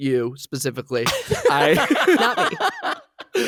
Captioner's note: laughing